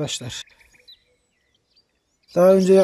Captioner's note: bird sounds